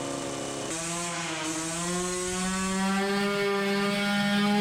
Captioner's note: engine roaring